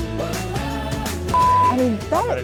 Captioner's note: beeping